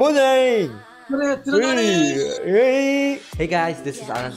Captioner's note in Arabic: اذهب بأمان!، لهجة